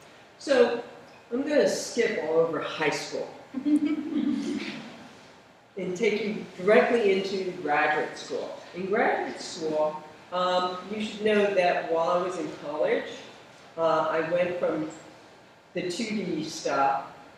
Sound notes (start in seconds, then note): 3.6 laugher